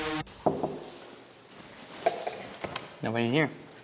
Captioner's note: upbeat music; knocking